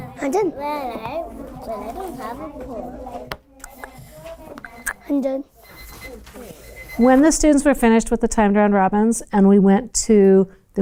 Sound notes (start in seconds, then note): 4.6 timer chimes